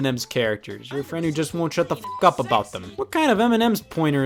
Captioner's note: beep